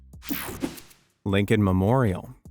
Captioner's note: image whipping effect